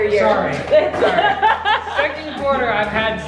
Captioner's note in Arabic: تضحك